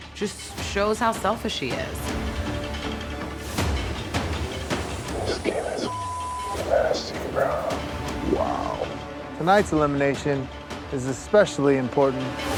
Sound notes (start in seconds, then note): 5.8 beep